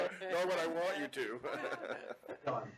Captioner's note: chuckles